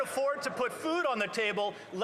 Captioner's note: some Applause